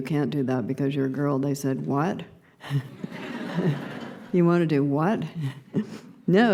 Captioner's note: laughter